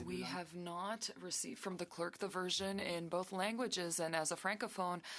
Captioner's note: speaking French